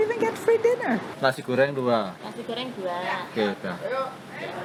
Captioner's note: in Indonesian